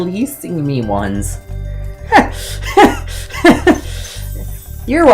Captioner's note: laughing